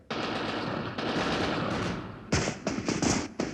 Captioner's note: guns firing